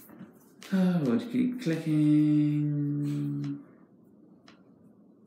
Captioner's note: sighs